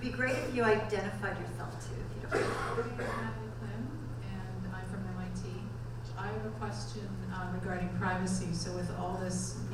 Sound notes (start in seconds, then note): 2.3 audience member coughing